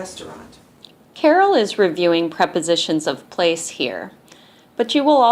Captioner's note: voiceover